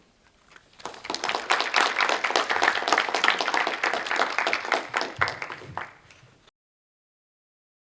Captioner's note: applause